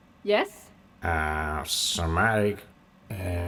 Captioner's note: none